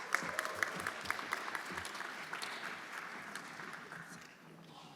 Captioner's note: everyone applauding